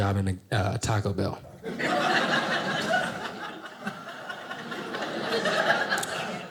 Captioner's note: audience laughing